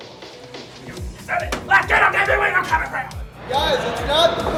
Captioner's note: wrestler screaming inaudibly